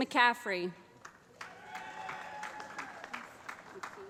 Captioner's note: applause